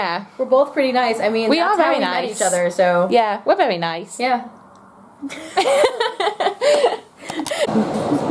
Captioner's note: laughter